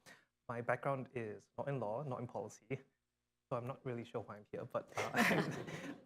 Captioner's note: laughter